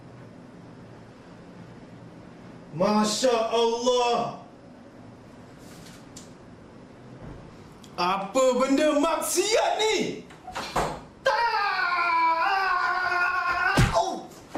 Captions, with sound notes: Mashallah. What is this sinful thing doing here!? [loud screaming] [thud] Ow!